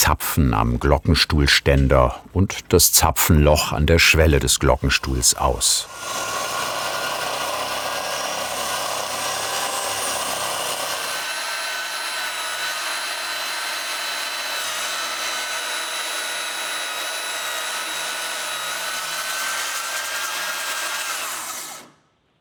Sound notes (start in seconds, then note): 6.1 continuous whirring; 20.9 the whirring stops